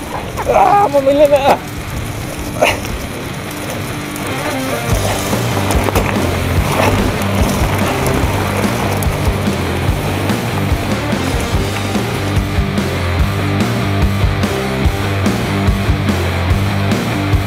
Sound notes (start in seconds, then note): 2.5 gasps; 4.6 energetic rock music; 7.7 gravel rattling